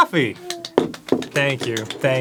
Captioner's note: tepid applause